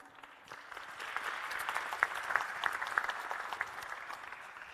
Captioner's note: audience and panel applauding